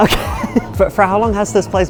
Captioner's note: laughs